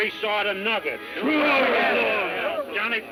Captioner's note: men shouting